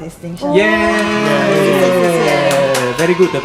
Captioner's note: applause